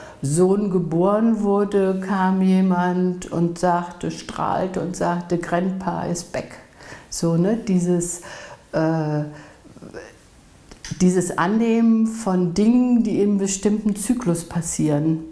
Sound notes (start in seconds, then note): 9.6 pause